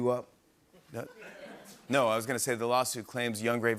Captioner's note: laughter